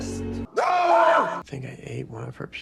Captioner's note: man speaks in foreign language; man yelling